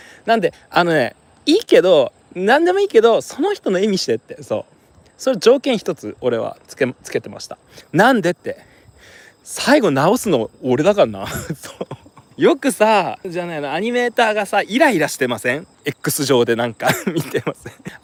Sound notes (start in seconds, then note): 11.2 laughs